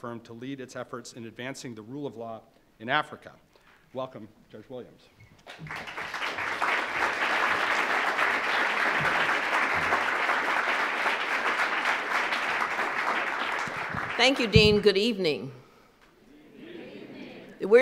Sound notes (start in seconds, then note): 7.8 applause